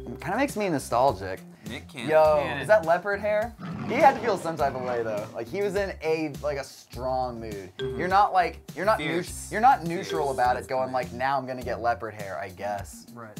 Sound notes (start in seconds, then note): 3.6 lion roars; 7.4 ding; 10.3 ding